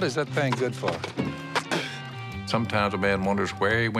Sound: spitting

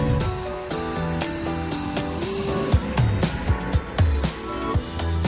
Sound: tractor engine whirring; bright upbeat music

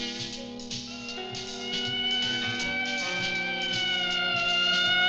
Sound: siren ringing

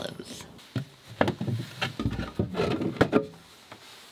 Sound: thudding

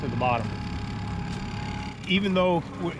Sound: boat engine idling

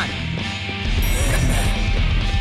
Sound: laughs

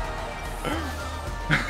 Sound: inhales

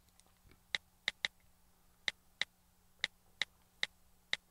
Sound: keyboard typing

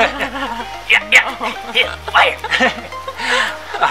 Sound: laughing

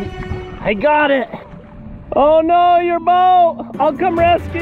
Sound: shouting

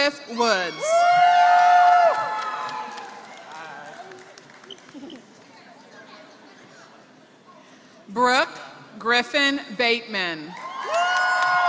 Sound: applause

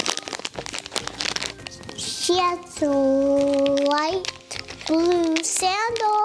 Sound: crinkles

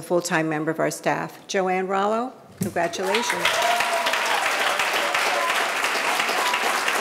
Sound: audience applauding

